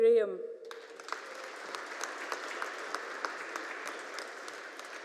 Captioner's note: audience applauding